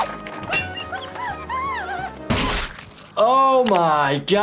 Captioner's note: Giggles shrieking